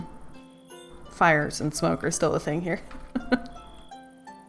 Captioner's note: laughs